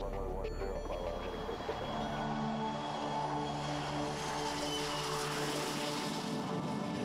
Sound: airplane taking off

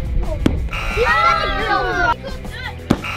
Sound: buzzer

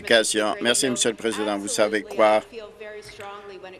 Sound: applause

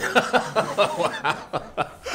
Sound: audience laughing

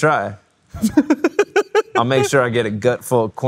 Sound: laughing

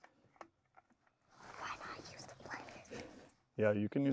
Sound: whispers

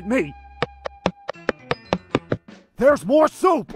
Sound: steps

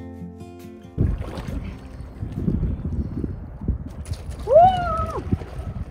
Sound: water splashing

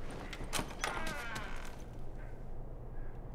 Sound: door creaks

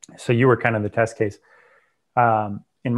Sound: breath

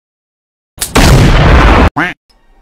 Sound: boom

